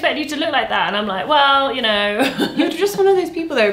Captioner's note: laughs